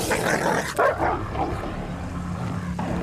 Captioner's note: voiceover; growling